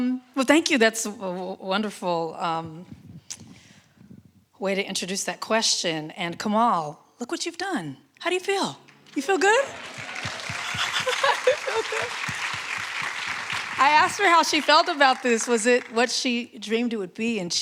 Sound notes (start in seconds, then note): 12.5 audience applauding